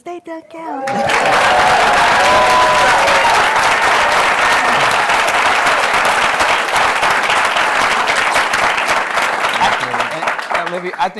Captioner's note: applause